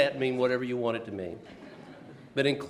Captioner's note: laughs